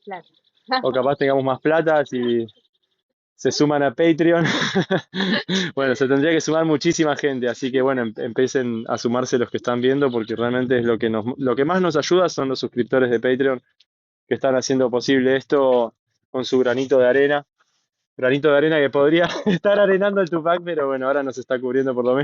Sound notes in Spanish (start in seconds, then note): 4.3 risas